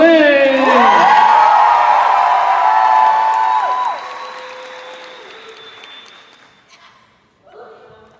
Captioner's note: cheers and applause